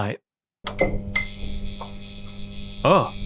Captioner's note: electrical buzzing